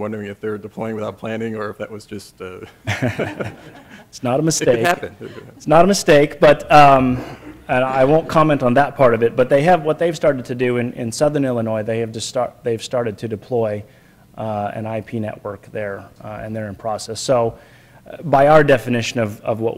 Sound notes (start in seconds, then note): 4.6 laughs